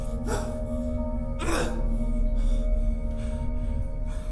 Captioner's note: grunting